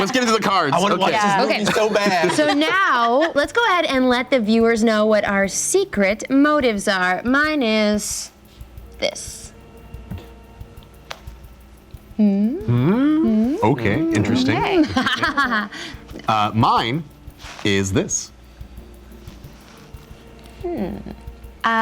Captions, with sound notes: let's get into the cards. I wanna watch this movie so bad. (laughter) So now, let's go ahead and let the viewers know what our secret motives are. Mine is this. (slow dramatic music) Okay, interesting. (devious laugh) No. Mine, is this. (slow dramatic music)